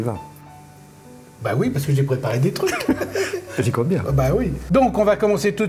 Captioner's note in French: Rires